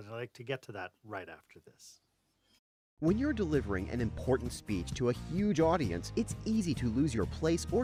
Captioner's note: voiceover